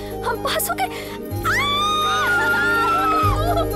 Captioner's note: Shouts